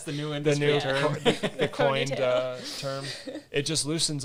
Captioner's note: laugh